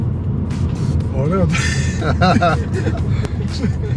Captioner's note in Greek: γέλια